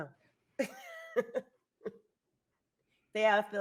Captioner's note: chuckles